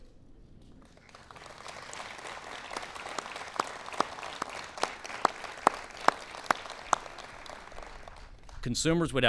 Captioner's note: applause